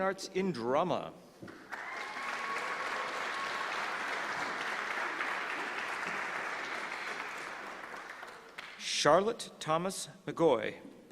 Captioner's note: applause